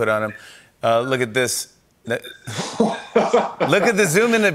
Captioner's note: laughs